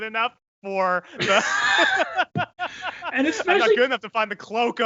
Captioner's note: laughing